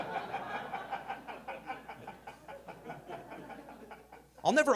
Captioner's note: audience laughing